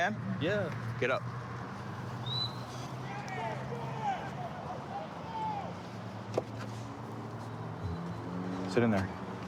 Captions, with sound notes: Yeah. Get up. [whistle] [indistinct shouting] [vehicles driving] Sit in there.